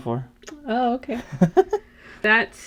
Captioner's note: giggles